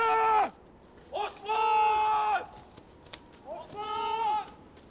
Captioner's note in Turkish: Bağırma sesleri